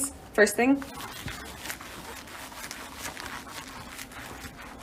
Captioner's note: her leather pants make an audible squeaking noise